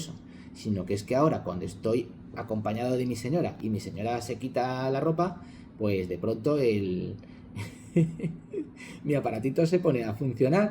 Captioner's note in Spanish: risas